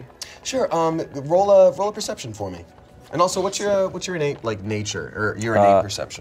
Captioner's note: none